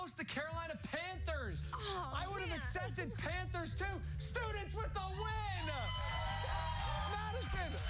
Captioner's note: cheers and applause